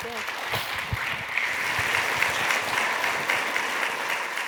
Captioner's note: applause